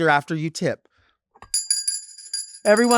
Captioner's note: bell ringing